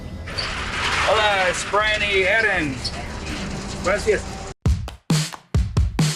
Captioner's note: speaking in foreign language